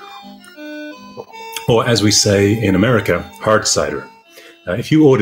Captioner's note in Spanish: acento americano